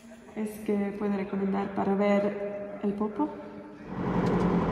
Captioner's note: in Spanish